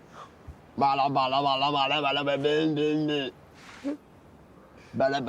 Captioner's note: making funny sounds